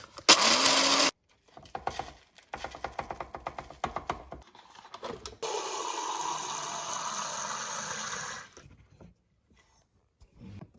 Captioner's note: coffee grinding